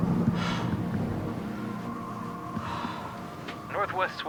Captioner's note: Dayne breathing uneasily